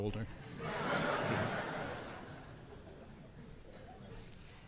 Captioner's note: audience laughing